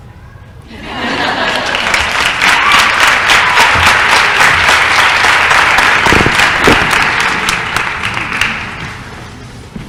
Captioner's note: laughter & applause